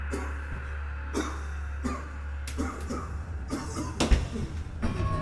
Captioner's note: person coughing